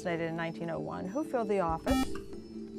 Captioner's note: buzzer